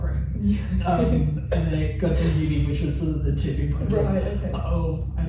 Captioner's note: laughs